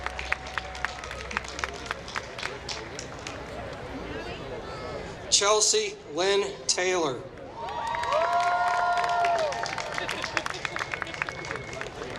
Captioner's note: applause; applause